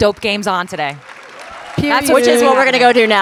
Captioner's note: audience applauding and cheering